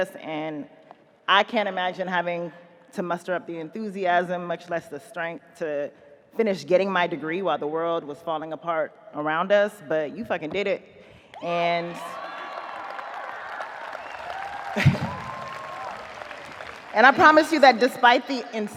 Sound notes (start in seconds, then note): 12.0 audience cheers, applauds; 14.7 chuckles